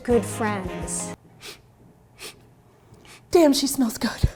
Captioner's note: sniffs